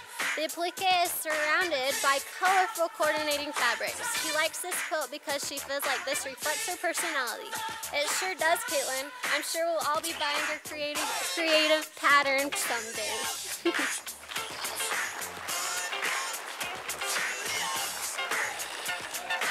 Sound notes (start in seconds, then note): 13.5 chuckle; 13.6 sound of applause from audience